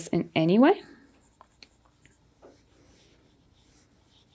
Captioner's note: pencil scratching